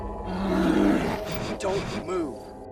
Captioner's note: bear growling